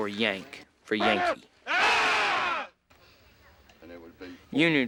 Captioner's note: men shout in unison